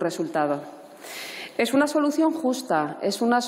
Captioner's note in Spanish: none